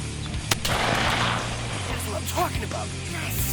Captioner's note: gun firing